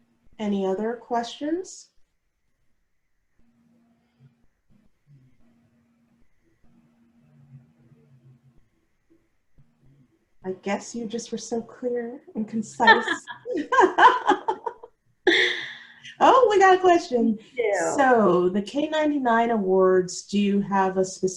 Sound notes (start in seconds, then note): 12.8 laughter